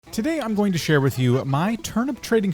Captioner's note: voiceover